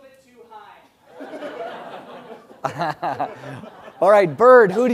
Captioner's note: laugh